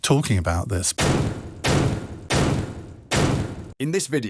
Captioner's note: gunshots